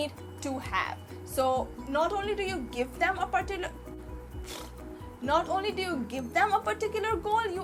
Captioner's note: blows raspberry